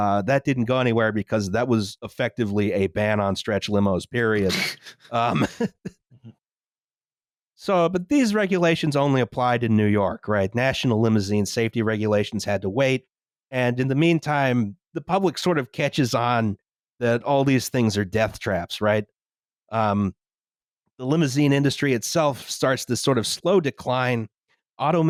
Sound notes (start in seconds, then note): 4.4 laughs